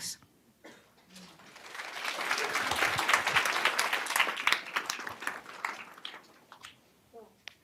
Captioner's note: applause